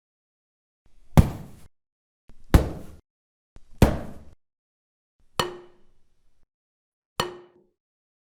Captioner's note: hitting sound